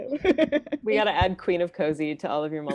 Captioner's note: laughing